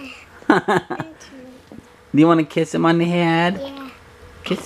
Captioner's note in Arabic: يضحك